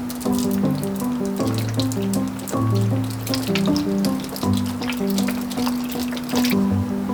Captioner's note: pitter-patter